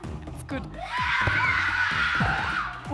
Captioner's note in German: Sie schreien